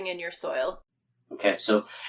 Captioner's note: laughing